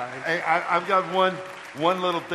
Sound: audience applause

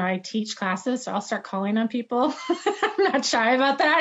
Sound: laughs

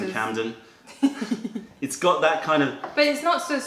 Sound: laughter

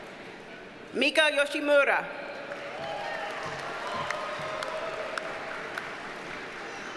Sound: audience cheers and applauds

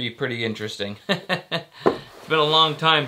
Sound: laughs

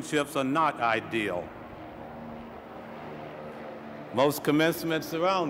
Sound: airplane flying

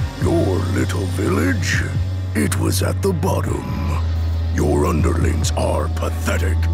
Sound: none

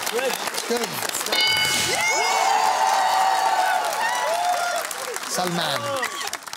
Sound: bell dings

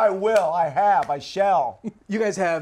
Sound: laughs; laughs

